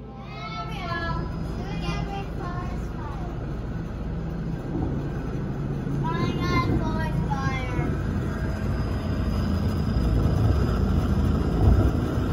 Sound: smoke and propeller noise, with two pilots in the cockpit

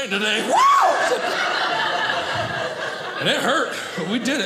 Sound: audience laughing

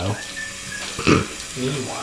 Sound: water trickling

